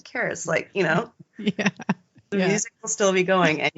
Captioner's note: both giggling